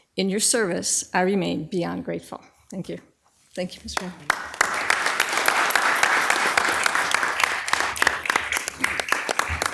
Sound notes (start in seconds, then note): 3.9 all applauding